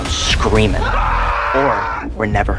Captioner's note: boys scream